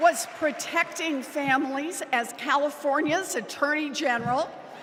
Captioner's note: cheers and applause